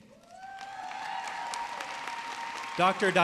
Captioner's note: audience cheering